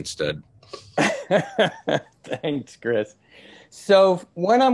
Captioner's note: laughs